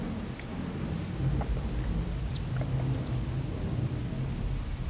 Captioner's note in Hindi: चहचहाहट